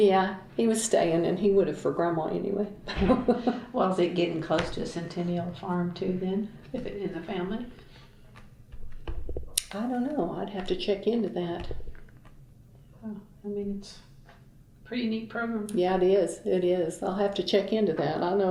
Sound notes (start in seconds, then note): 2.9 laughs